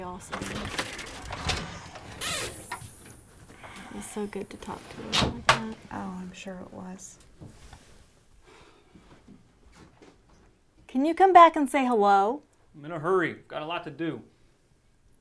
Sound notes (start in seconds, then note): 0.2 clattering; 8.2 Bryan sighs